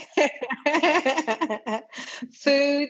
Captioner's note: laughing